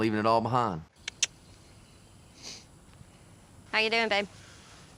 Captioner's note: clicks tongue